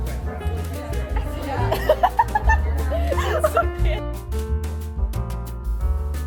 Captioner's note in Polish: śmiech